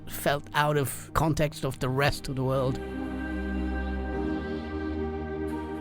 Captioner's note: voiceover